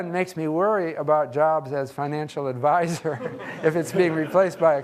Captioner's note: laughs